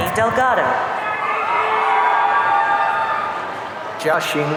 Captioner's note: audience cheering